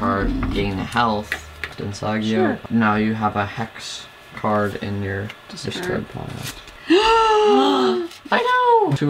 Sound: gasp!!

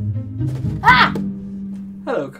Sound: Karla Screams

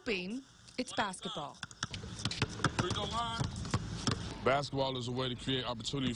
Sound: nats of basketball

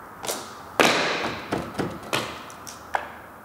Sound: hammering

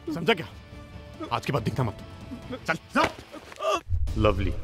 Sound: screams

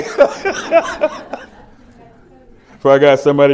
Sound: laughter

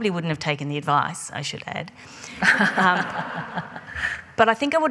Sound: laughing

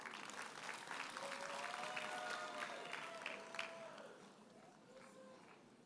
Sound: audience cheers and applauds

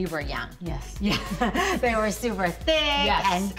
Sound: laughing

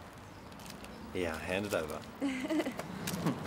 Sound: chuckles

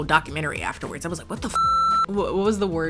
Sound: beep

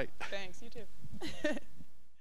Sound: chuckling

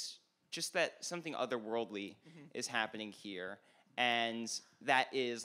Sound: none

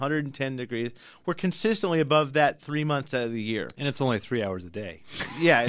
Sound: laughs

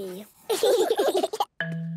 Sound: all laughing

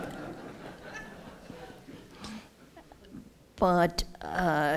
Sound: laughter

